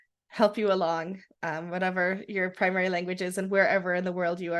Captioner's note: none